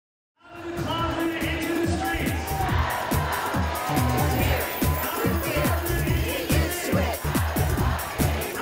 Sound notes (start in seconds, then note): 1.9 crowd Chanting